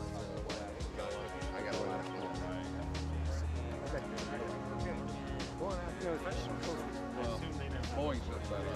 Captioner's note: engineers conversing quietly